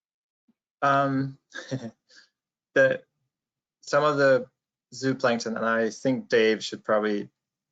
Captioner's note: laughs